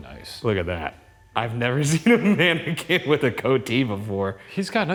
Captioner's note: laughs